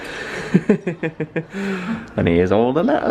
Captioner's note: laughing